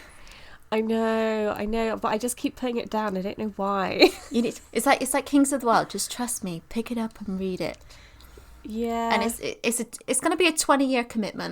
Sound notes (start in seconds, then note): 4.4 laughs